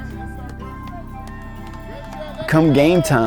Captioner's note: cheering